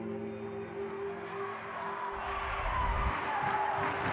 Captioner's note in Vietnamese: học sinh reo hò